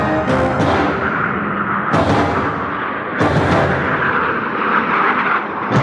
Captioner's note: airplanes whooshing